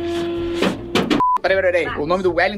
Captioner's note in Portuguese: som de bipe